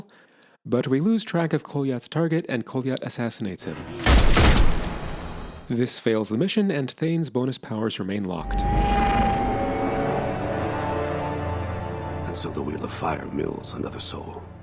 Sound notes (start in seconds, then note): 4.0 gunshots